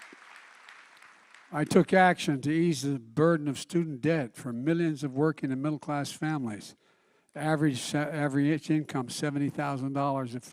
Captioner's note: applause